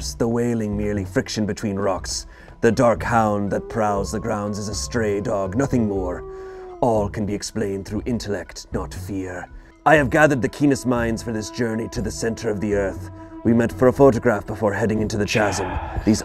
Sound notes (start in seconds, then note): 6.3 wolf howling